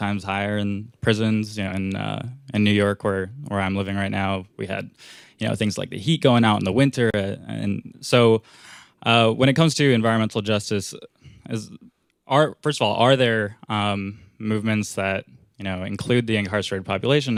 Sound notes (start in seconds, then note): none